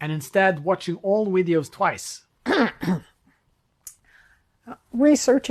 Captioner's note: clearing throat